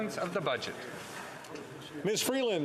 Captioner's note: speaking French